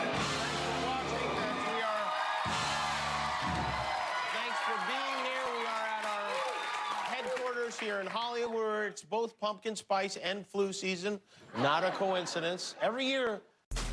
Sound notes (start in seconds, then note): 9.0 cheers and applause